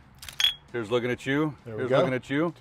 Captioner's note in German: Flaschen klirren